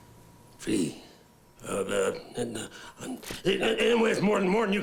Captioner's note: stammers